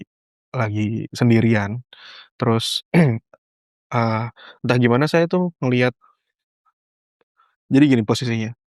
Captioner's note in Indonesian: berdehem